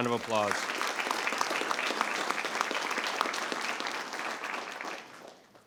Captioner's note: audience applauds